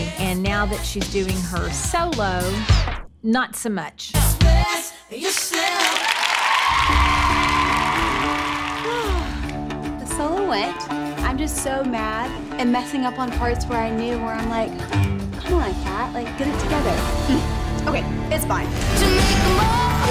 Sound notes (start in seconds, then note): 5.4 audience applauding and cheering; 8.6 sighs